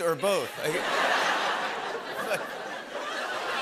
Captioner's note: laughter